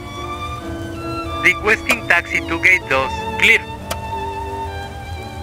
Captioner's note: Spanish